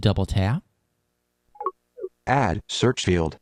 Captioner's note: device blips